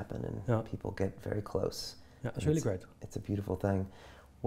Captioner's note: none